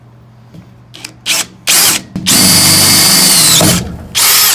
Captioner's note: drilling noise